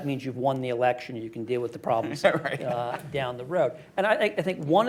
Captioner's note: laughs